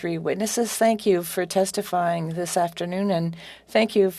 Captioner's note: speaking French